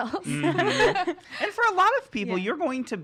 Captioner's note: laughing